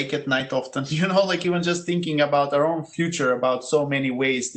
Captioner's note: laugh